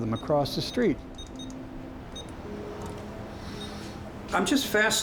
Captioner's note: beeping